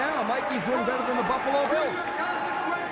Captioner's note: crowd cheering